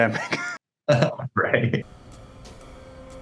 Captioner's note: chuckles